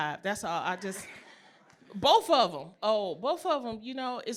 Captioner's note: laughter